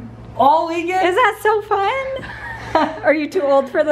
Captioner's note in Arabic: يضحك